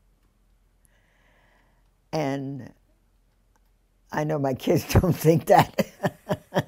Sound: laughs

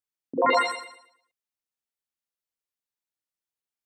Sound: game chimes

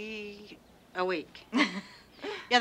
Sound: Sheila laughs

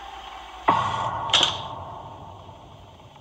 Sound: eerie thud, door shutting

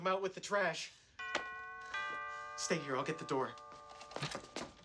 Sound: doorbell

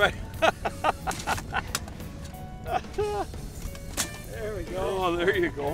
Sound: laughs

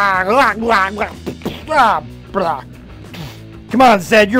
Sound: making gibberish noises

